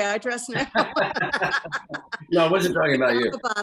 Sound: both laughing

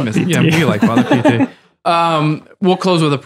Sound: Father Innocent laughs

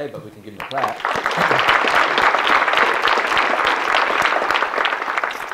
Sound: audience clapping

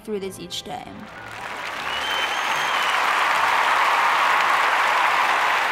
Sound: cheers and applause

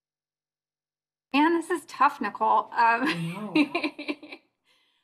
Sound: laughter

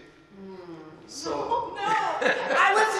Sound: humming appreciate response

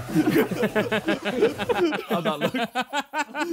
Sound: Sidemen laughing

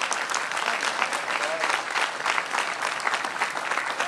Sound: applause

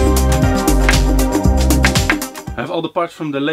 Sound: metal tapping wood

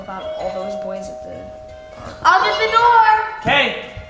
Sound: doorbell ringing

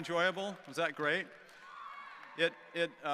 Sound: students cheering

